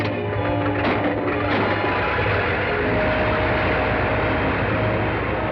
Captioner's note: plane whirring